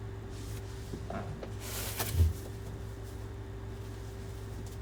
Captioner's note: wig rustling